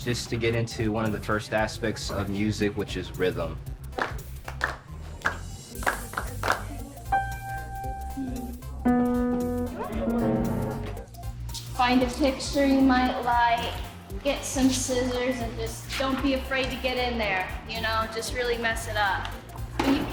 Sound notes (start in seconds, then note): 3.7 attendees clapping rhythmically; 7.1 piano resonates